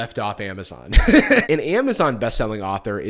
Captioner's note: laughs